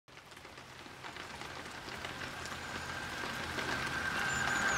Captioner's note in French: pluie orageuse